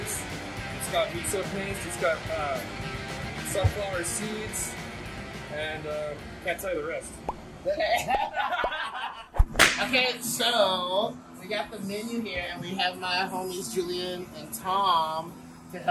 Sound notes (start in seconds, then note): 7.7 laughter